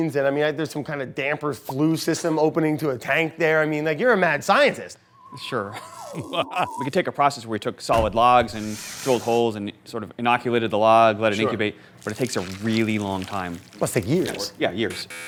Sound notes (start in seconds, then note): 5.6 chuckles; 7.9 thudding